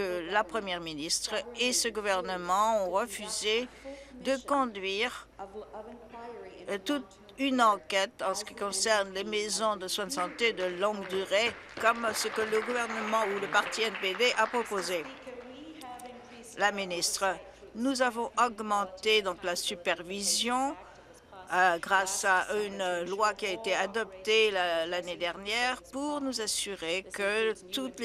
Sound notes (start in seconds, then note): 14.3 applause